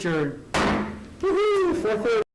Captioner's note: gavel striking